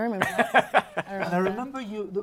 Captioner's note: laughs